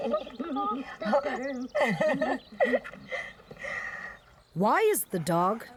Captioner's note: laughing